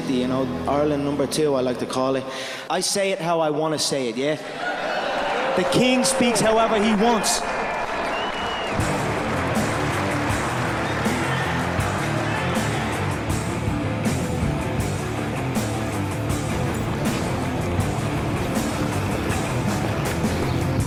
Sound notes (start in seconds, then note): 4.4 laughing